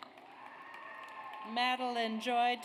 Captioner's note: audience cheers